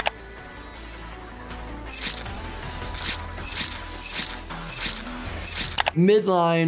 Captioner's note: mouse clicking; upbeat music; blade rasping; blood squelching